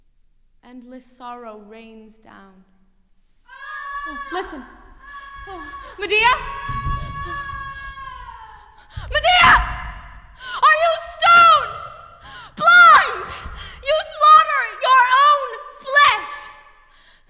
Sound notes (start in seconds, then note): 3.4 screaming offstage; 6.9 screaming continues